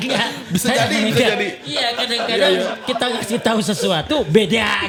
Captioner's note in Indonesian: tertawa; tertawa